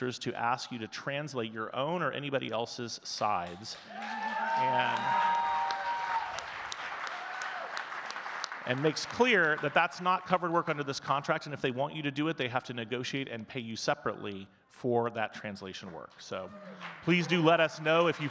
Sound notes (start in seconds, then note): 3.5 audience cheering and clapping